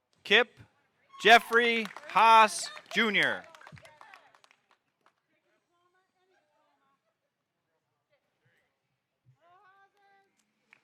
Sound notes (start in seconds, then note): 3.7 audience applauding; 3.7 woman yelling excitedly